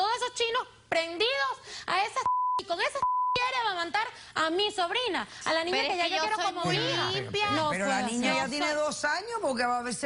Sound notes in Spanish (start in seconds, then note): 2.9 Bip